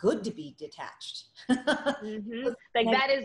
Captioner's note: Eva laughing